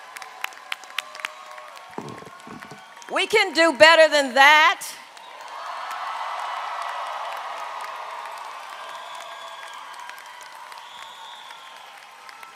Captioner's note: applause